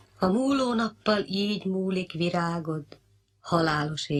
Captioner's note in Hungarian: érzelmes szavalat